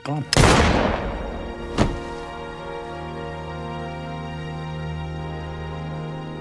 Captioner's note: slow paced music; gun firing